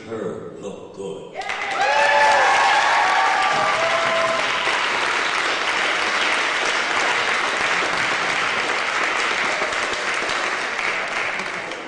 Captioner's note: applause